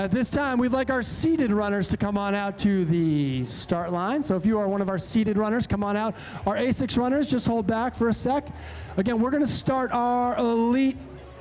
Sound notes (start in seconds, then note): none